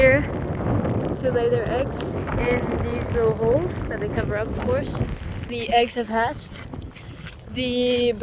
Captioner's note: none